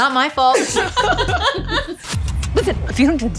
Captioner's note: laughter